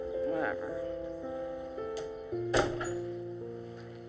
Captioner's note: door closes